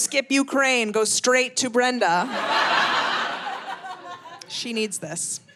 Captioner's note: audience laughing